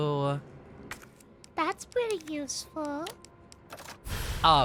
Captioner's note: kittygirl voice